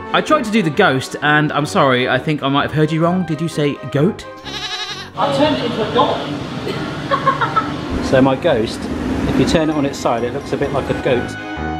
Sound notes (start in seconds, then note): 4.4 goat bleating; 6.7 laughing; 11.5 upbeat music